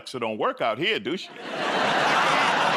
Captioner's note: laughter